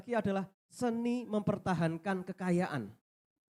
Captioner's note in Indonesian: none